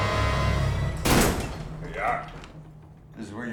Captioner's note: dark menacing music; door bangs